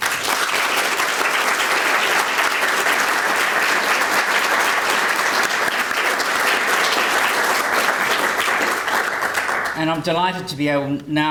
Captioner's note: applause